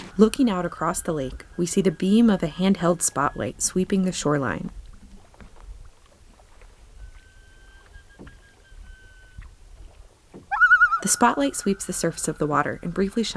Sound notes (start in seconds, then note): 4.7 soft noises of boat in water; 10.4 loon tremolo